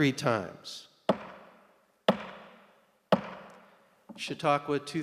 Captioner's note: gavel pounding